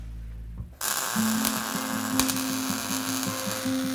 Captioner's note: torch crackles